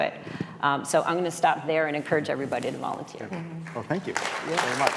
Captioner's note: applause